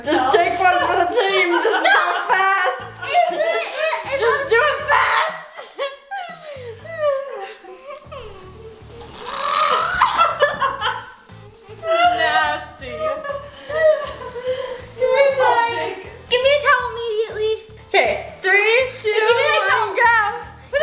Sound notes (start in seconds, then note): 8.7 dry retching; 10.9 laughing